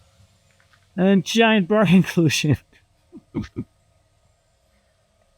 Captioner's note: laughing